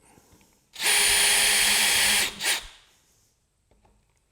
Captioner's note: drill Buzzing